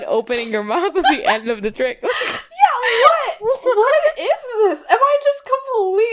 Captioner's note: laughing